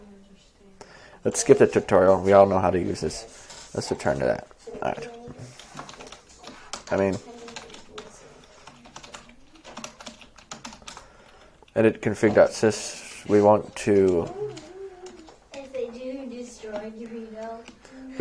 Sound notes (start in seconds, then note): 5.6 typing